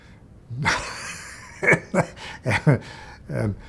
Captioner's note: laughs